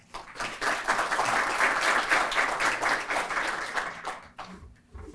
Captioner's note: applause